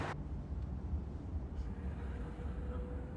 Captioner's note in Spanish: Ruido del motor